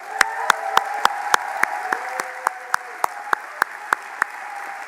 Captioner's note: applause; cheering; applause